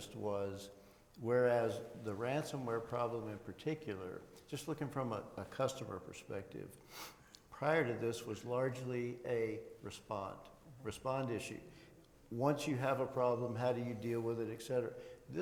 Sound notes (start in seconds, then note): none